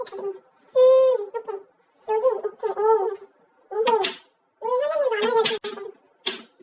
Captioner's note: interfering